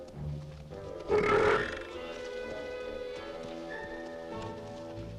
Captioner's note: Torente belches